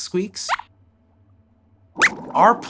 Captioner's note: squeaks squeaks